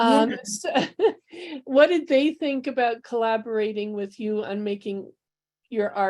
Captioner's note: laughter